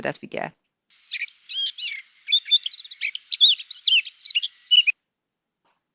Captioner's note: birds chirping